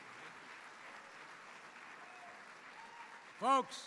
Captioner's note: applause